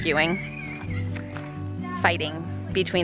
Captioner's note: squealing